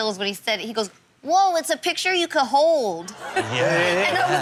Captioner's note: in childlike voice; audience laughing